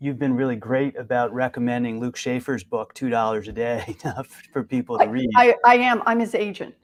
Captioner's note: chuckle